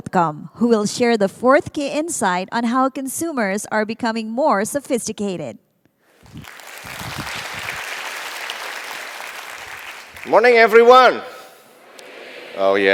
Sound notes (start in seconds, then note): 6.2 applause